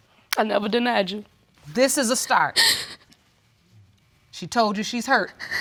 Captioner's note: sobs